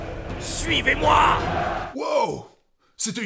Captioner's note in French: Hurlement Exclamatif